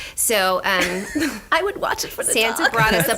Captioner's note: laughs